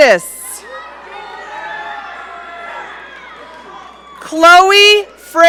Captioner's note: audience cheering